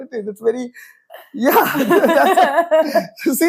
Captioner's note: laughs